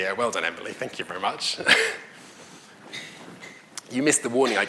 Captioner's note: laughs